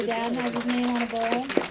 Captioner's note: applause